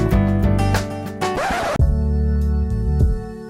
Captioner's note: upbeat instrumental music; record scratch; neo soul music